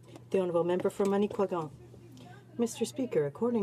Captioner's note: speaking French